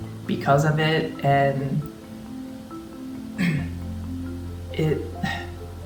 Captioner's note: clears throat